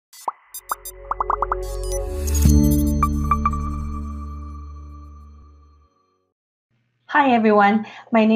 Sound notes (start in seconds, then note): 0.2 robot beeps; 1.1 light music